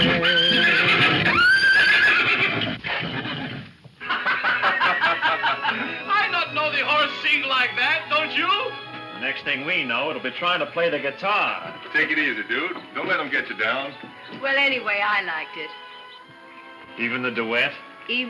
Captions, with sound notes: (horse neighing) (Kentucky and Lucy laughing) - I not know the horse sing like that, don't you? - Next thing we know it'll be trying to play the guitar. - Take it easy, Dude. Don't let him get you down. - Well anyway, I liked it. - Even the duet?